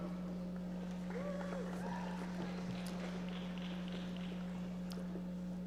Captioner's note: audience applauding